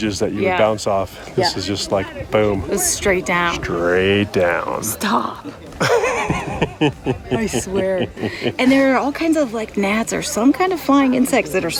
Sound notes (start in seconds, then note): 5.8 laughing